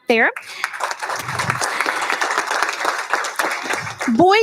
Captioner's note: applauding